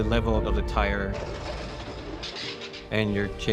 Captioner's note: Trineo rasga el hielo